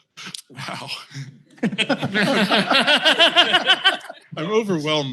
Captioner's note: laughter